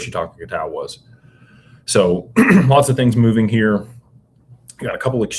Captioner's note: clears throat